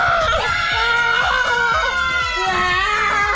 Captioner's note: cheering